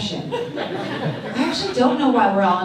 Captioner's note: audience laughs